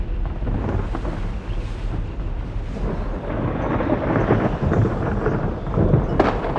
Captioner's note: waves splashing; thunder rumbling